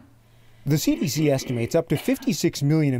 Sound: coughing

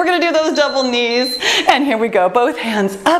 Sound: timer beeps

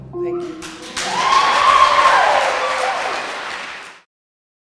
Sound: applause

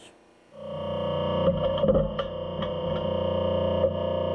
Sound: machine whirring

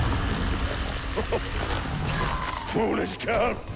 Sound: derisive chuckle

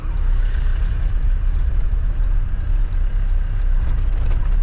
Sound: car motor humming

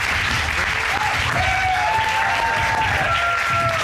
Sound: cheering

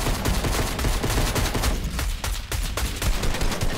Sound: gunshots

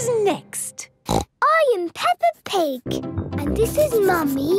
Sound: snorts

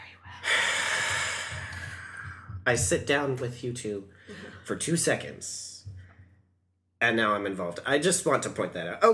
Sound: also sighs; sighs

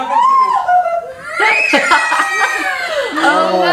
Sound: screaming

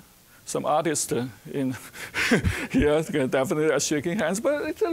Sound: chuckling

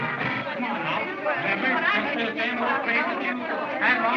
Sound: chattering

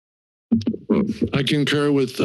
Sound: mic thumps

